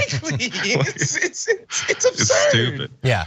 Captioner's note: laugh